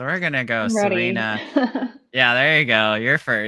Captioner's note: laughing